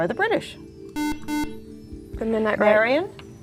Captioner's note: beeping